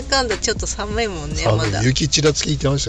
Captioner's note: laughs